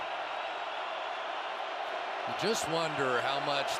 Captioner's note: cheering